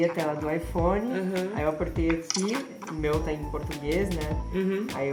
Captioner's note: woman talking very fast in portuguese